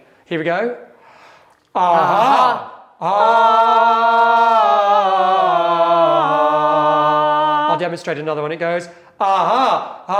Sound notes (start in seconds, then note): 1.7 all vocalizing